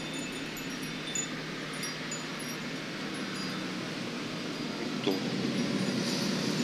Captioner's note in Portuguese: ruído da rua e carros ao fundo